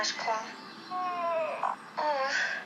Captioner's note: whines in fear